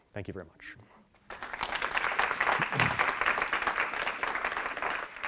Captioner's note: audience applauding